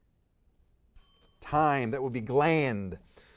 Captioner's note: timer dings